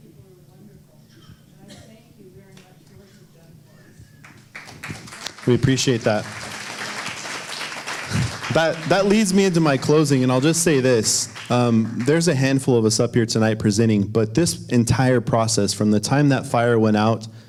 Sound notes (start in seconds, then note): 4.9 applause